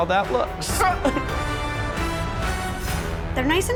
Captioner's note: judges chuckle